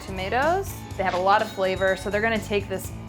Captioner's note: cash register chimes